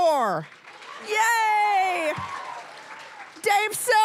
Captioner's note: cheering, applause